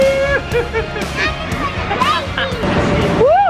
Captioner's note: laughs